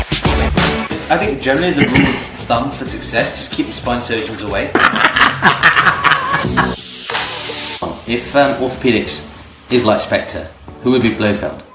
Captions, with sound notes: I think Germany, as a rule of thumb for success. Just keep the spine surgeons away. (Both laughs) Orthopedics is like specter, who will be blofeld.